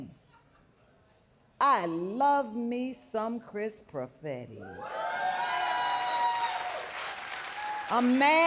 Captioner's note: audience cheering